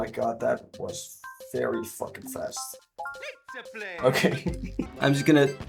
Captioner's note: laughs